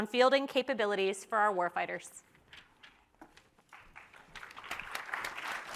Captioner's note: audience applauds